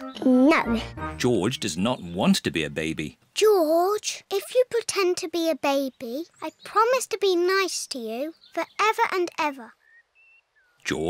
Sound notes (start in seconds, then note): none